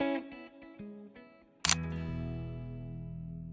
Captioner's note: photo click